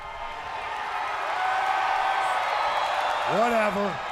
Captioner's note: crowd cheering